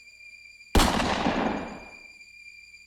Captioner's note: gun firing; soft tense music